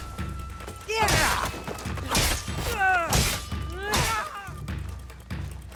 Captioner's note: characters shouting